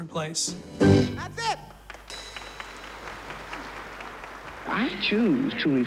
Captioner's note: audience applauds